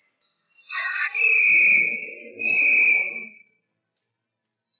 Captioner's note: whistle tweets